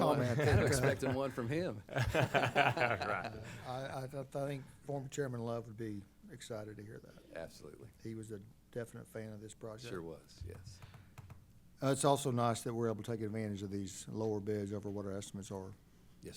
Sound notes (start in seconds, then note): 1.9 laughter